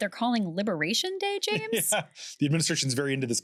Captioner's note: laughing